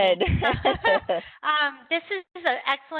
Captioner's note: laughter